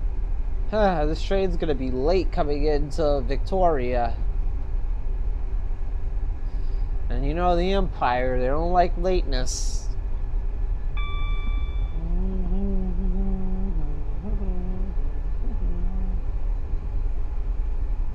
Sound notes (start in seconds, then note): 10.9 hums